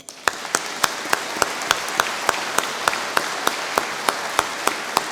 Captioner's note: audience applauding